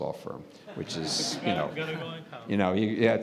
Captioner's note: laughter